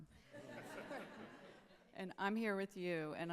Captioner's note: audience laughing